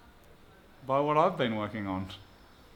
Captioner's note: scoffs